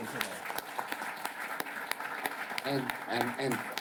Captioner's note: applause